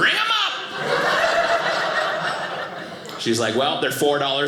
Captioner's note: audience laughing